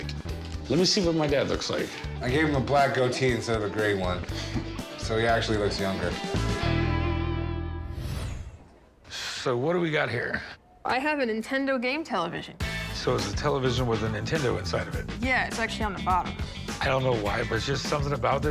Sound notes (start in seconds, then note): 3.9 laughs